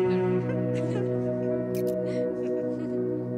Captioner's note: Laughing; Camera shutter clicks